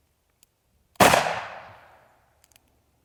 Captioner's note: gun shooting